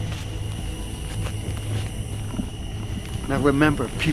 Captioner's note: shuffling footsteps; insects singing